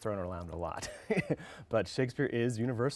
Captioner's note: laughs